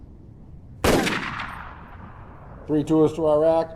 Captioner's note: gun blasting